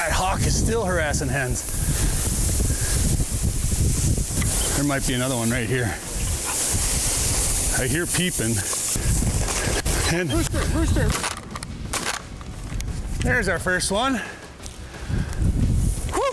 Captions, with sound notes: That hawk is still harassing hens. There might be another one right here. I hear peeping. Hen, rooster, rooster! (gun fires) There's our first one.